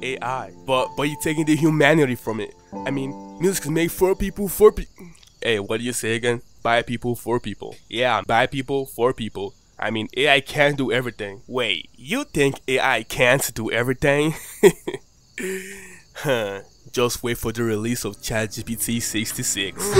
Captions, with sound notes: AI but you taking the humanity form it I mean music is made for people for... ayy what did you say again? by people for people yeah by people for people I mean AI cant do every thing wait you think AI cant do every thing? (laughs) just wait for the release of chat GPT 66